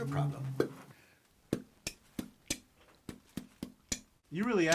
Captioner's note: Phil beatboxes